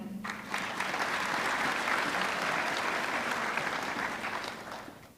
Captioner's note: audience clapping